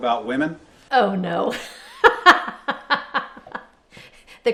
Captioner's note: laughs